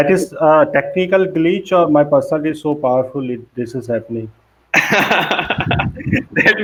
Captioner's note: laughs